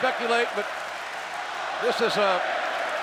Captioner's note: audience chanting and clapping